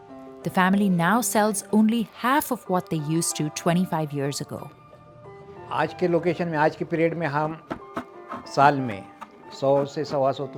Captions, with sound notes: The family now sells only half of what they used to 25 years ago. (speaking foreign language)